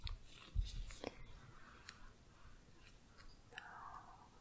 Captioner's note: quiet shuffling